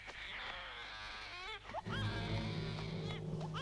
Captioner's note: dramatic music; baby crying